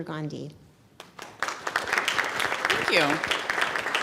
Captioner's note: audience claps